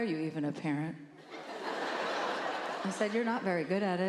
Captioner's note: laughter